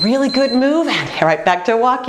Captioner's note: beeping